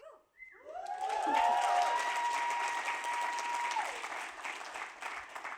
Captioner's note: applause